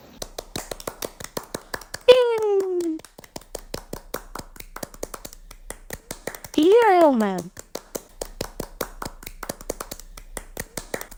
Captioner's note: realistic clapping sounds